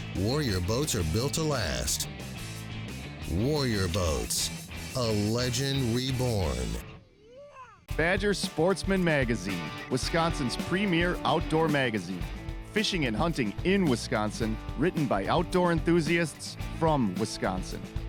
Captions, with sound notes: warrior boats are built to last. Warrior boats, a legend reborn. - [Voiceover] Badgers sportsman magazine, Wisconsin's premier outdoor magazine. Fishing and hunting in Wisconsin written by outdoor enthusiasts from Wisconsin.